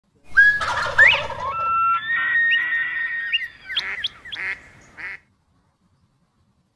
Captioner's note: bird calls